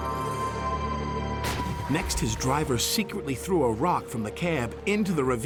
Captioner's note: splash!